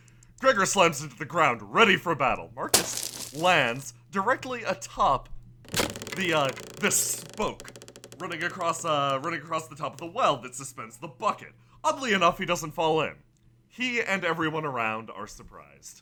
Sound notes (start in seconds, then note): 2.7 thump! Crunch!; 5.7 wood boinging